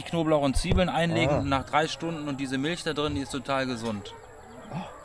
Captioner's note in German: räuspern